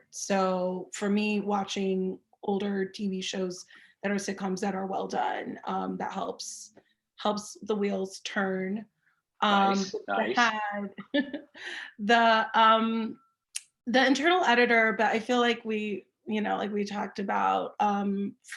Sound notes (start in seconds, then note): 12.7 laughs